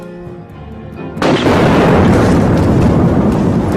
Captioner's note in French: Coup de feu, déflagration